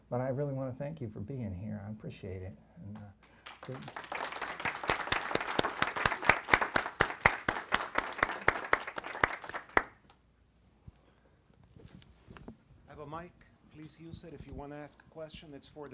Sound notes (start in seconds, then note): 3.2 applause